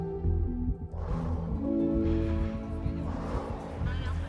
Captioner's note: exhaling